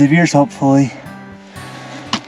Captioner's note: thumping on bucket